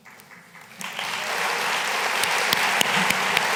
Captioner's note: applause